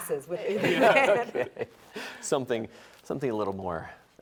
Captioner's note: all laughing